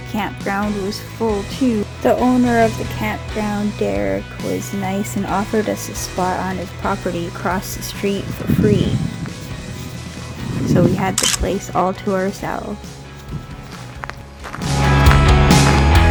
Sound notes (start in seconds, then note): 11.1 photo click